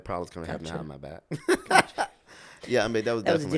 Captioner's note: laughs